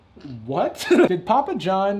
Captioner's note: giggles